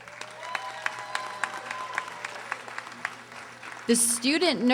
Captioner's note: audience applauding